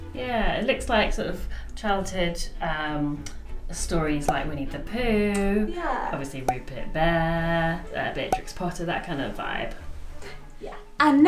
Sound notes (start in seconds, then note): 4.2 popping sound; 8.1 popping sound